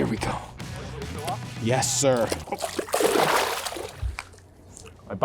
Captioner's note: water splashes